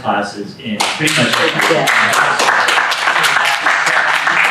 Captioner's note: applause